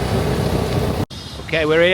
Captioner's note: tuk Tuk driving